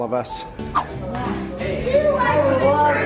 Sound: upbeat music; air whooshing

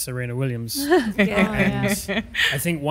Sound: laughs

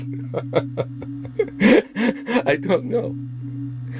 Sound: laughs loudly

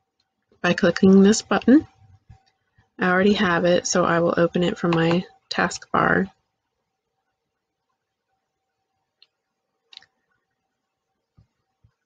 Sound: click; click

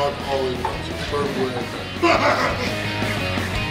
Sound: laughing; rock music

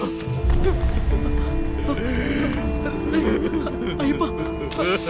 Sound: crying

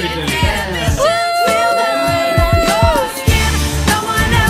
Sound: cheering

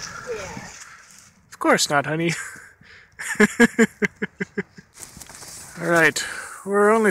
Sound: laughs

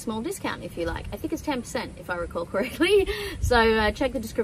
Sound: chuckles

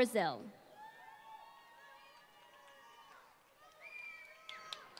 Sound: applause

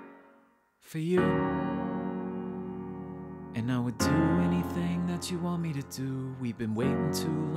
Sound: none

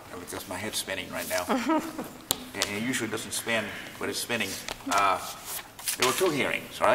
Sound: laughter

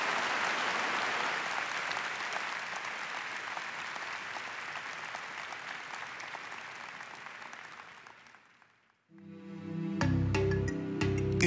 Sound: applause

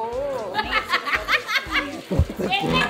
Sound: laughs

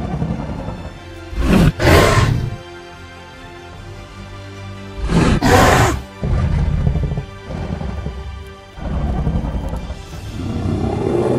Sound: albertosaurus snarling

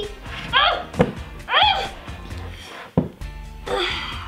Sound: gasps

